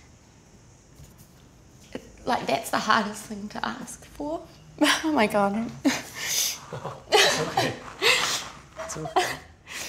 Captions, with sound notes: That's the hardest thing to ask for. Oh my God! (sobs) - It's okay, it's okay.